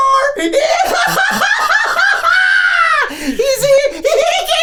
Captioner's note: eccentric laughing